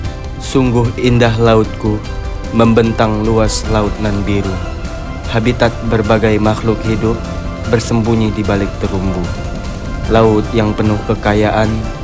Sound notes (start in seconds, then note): 1.1 in Bahasa